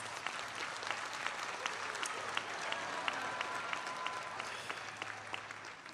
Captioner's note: audience cheering and applauding